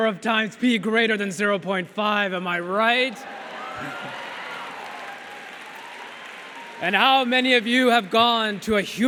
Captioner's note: laughter & cheers from audience